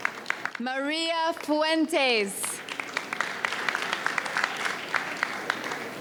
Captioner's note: audience cheers; audience applauds